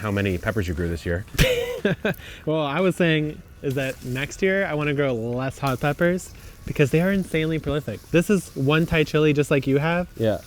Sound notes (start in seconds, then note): 1.3 laughing